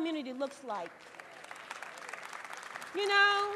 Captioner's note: applause